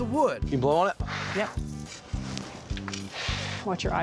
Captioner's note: blowing; blowing sound